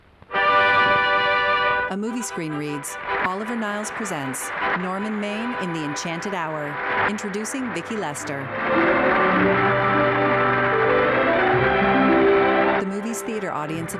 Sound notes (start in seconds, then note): 3.7 audience applauding; 11.0 applause petering out